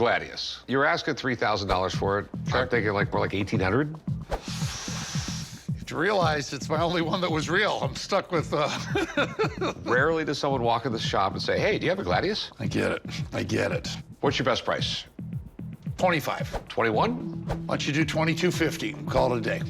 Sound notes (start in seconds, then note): 8.6 laughs